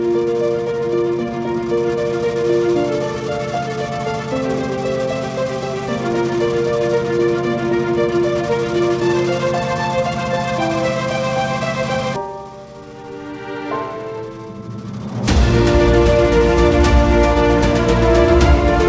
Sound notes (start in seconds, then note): 0.3 lighthearted music; 4.1 car engine whirring; 15.3 dramatic music